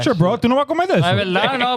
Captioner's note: speaking In Foreign Language